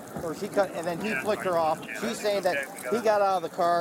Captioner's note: radio chatter